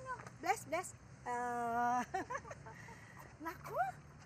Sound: chuckles

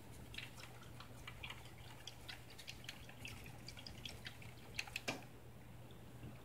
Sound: feint gurgling

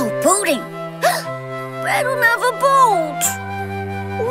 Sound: gasp

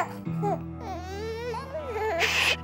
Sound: baby howling; baby cooing

